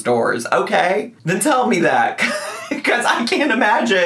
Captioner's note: laughs